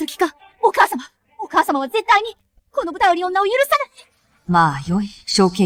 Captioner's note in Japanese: 笑い